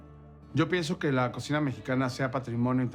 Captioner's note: in Spanish